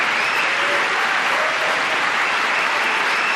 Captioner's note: applause